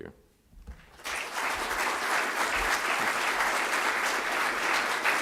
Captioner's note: audience applauds